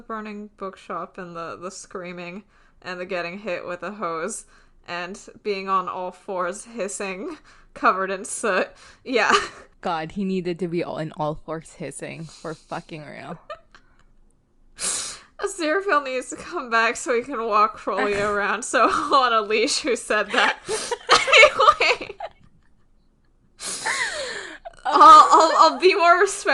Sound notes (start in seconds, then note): 13.3 laughs; 20.3 both laughing